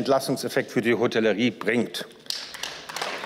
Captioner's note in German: Beifall